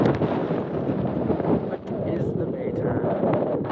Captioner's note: wind Blowing